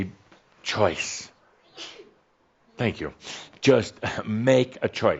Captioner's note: someone sneezes